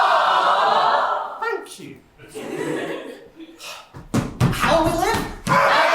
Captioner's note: louder audience aww; audience aww, plus ‘womp womp’